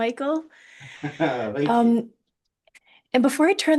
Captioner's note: laughs